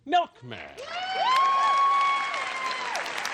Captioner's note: cheering